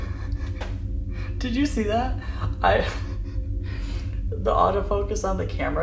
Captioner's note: laughs; laughs